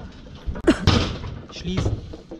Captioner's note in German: krach